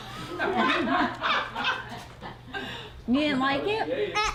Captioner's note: laughter